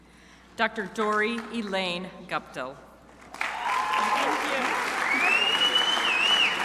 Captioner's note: crowd applauding